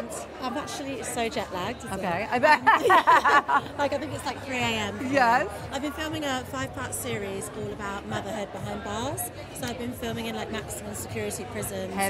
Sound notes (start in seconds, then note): 2.6 laughs